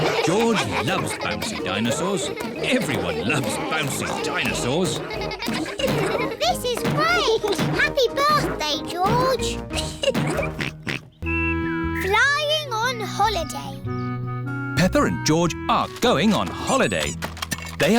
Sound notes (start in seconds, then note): 9.6 laughs; 9.8 oinks